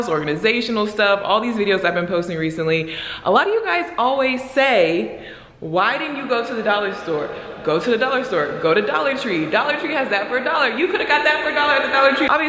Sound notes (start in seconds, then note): none